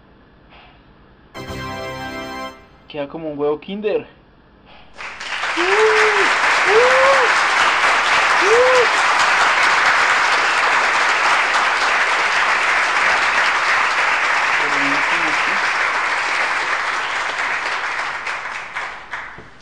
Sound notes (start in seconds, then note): 4.9 applause